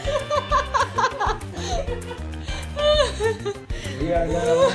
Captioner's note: girls continue laughing hysterically